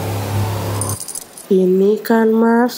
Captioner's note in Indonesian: key's jiggle